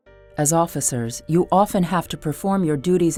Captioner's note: voiceover